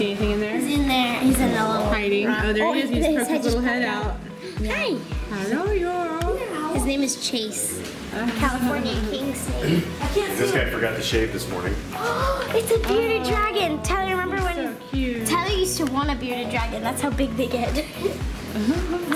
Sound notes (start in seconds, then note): 12.0 gasps; 17.7 laughs